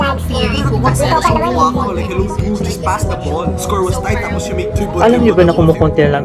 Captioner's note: speaking conyo